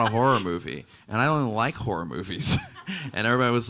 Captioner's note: laughing